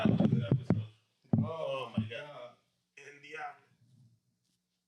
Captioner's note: speaking In Foreign Language